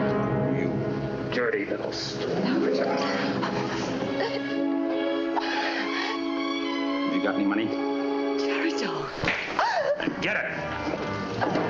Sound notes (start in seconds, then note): 8.8 gasps